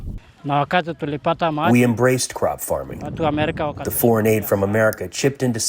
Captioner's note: through translator